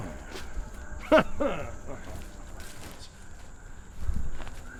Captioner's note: Dogmouth scoffs; Dogmouth grunts angrily